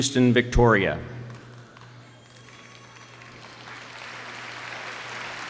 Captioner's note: audience applauding